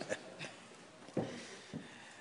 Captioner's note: laughter